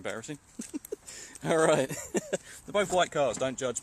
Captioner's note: laughs